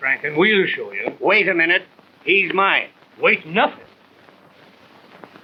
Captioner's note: none